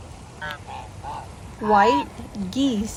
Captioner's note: geese honking